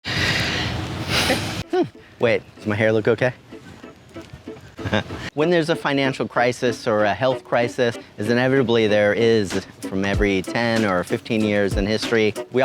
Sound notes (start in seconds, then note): 0.0 exhaling sharply; 4.7 chuckling